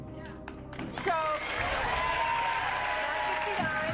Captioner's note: audience cheering and clapping